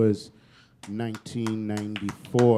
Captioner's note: applause